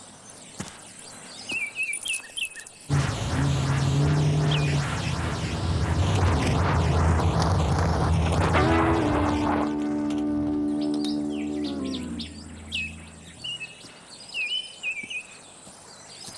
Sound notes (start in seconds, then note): 9.1 light guitar music; 12.1 birds chirping